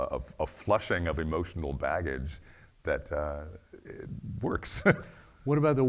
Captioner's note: laughs